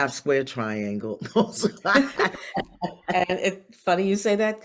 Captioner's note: both laugh